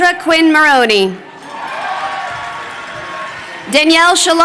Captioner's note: crowd cheering